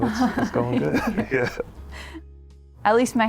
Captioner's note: Carl and Harmony laughing